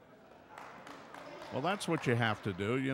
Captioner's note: clapping